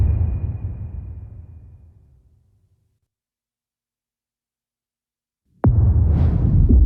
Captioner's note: dramatic sound